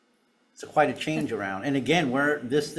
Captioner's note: speaker chuckling